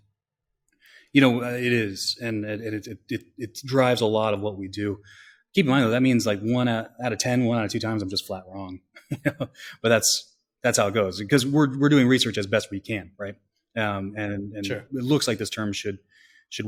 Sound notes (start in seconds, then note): 9.0 laughs